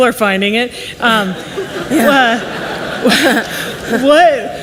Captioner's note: audience laughs